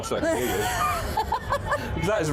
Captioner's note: laughing